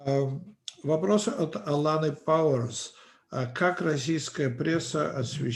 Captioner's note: translator speaking Russian language